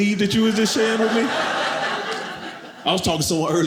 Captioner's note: audience laughing